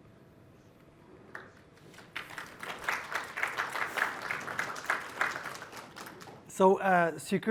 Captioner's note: applause